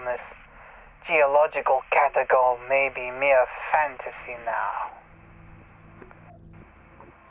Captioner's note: gentle Hum, Clinking Glass...Footsteps?